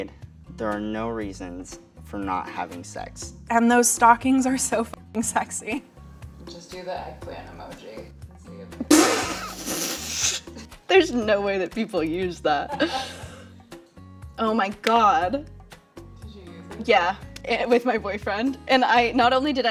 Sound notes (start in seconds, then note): 12.6 laughter